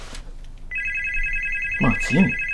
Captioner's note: phone ringing